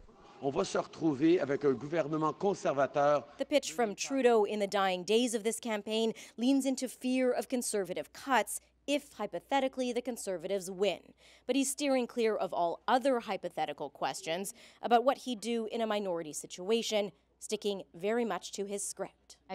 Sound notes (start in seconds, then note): 3.2 speaking French